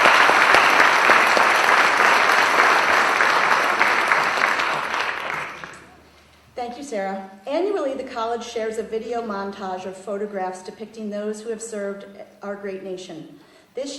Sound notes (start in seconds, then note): 4.9 applause